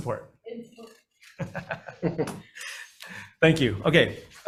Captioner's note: group laughing